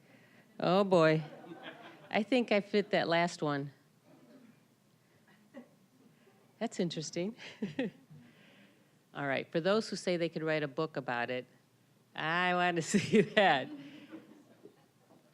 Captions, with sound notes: Oh, boy. (audience laughing) I think I fit that last one. That's interesting. (chuckling) All right, for those who say they could write a book about it, I want to see that. (laughing)